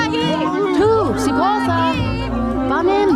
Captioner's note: speaks angrily in another language